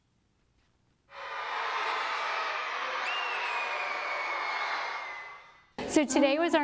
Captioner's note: cheering